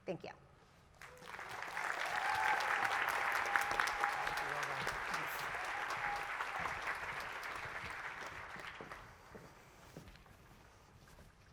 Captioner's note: applause